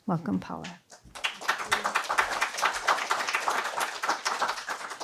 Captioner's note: applause